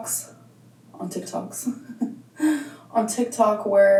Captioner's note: chuckles